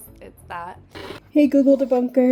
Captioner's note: TV noise